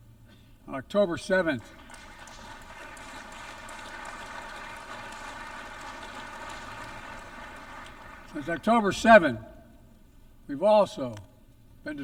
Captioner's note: applause